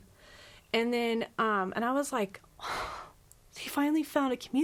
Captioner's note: sighs